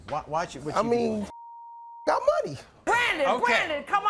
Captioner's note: beep